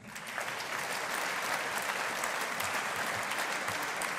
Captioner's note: audience applauding